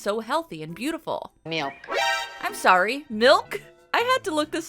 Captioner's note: sound affect